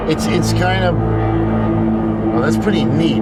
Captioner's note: deep suspenseful sound